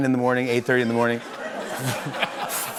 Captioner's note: laughter